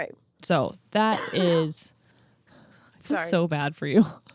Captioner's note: coughing